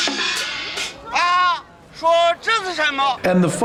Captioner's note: non-english speech